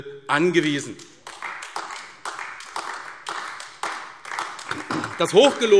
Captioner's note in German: Beifall AfD